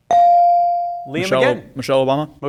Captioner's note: bell ring